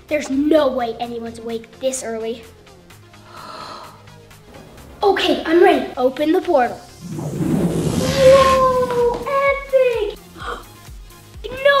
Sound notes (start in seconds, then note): 3.6 sigh of relief; 10.1 loud gasp